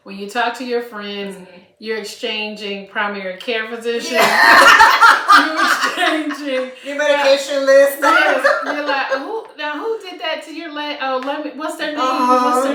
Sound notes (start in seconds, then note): 4.0 laughter